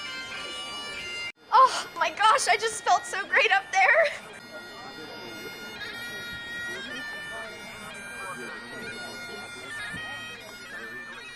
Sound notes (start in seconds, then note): 4.0 indistinct background chatter